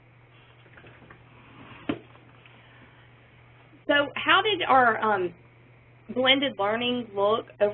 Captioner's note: pause